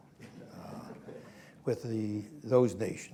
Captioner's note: laughter